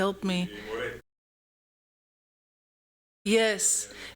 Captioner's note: audio out